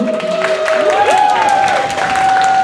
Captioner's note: clapping and cheering